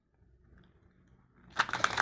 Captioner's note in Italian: Applauso